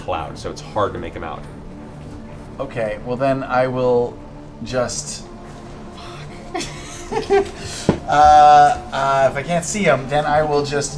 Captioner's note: laughs